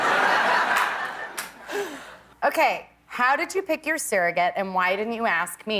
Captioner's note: laughter